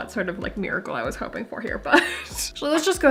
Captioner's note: laughing